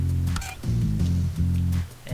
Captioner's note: button clicks